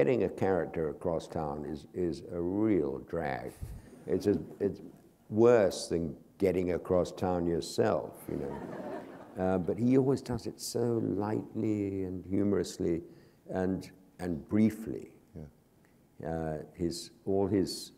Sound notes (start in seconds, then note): 3.6 chuckle; 8.2 laughter